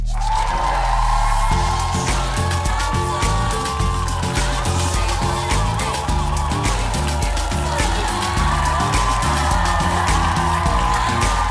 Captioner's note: cheers and applause